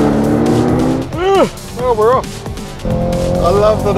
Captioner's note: yawns